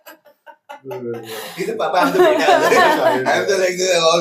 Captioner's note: laughs